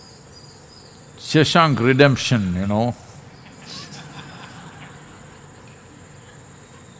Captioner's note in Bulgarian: смях